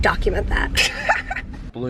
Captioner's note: laughter